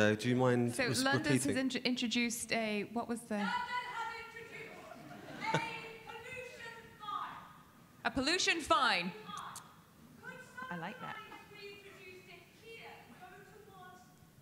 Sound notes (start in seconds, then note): 4.6 audience laughing